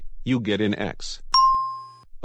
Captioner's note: ding